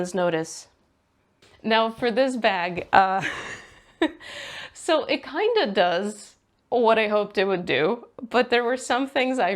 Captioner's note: laughs